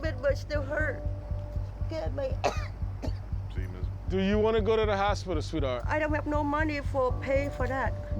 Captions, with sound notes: (woman coughing) Do you want to go to the hospital, sweetheart?